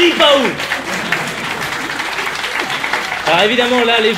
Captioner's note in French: applaudissements